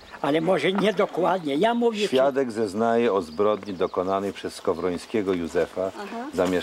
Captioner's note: reading in Polish